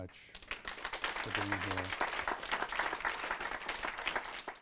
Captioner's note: audience applause